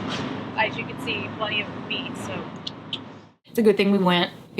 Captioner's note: clicks tongue